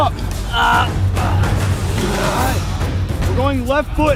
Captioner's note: men grunting